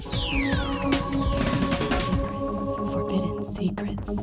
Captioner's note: lady whispering "Forbidden Secrets"